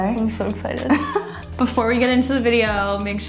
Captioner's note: laughs